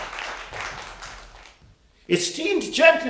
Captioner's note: applause